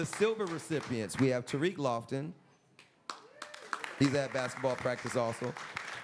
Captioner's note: applause; applause